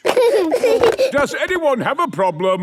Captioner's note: giggling